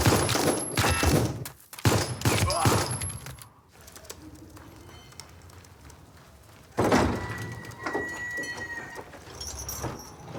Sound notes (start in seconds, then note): 2.4 man grunting